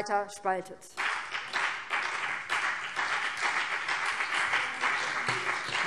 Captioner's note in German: Beifall BÜNDNIS 90/DIE GRÜNEN